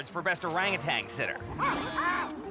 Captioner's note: hears monkey screeching